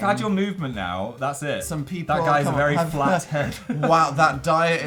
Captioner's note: laughs